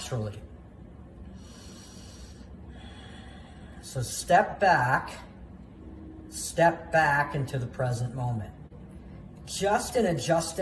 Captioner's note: deep breath